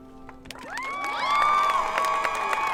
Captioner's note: applause